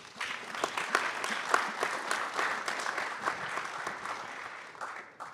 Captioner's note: applause